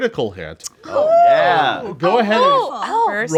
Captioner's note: group rejoicing